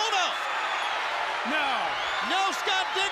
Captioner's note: crowd cheering